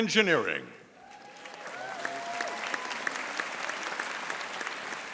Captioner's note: audience applauding